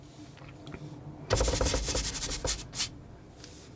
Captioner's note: scratching